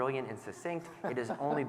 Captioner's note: laughing